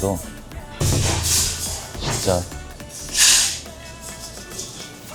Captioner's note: chopsticks moving very busily